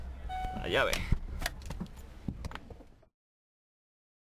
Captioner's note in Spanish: Pitido del coche al abrir la puerta